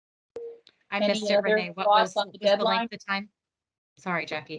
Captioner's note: audio distorts